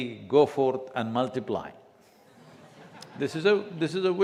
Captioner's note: laughter